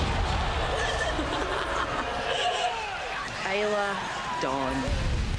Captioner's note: chuckles